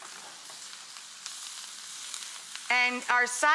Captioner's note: pan sizzling